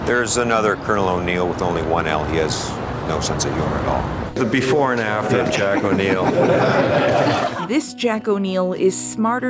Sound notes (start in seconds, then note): 6.8 laughter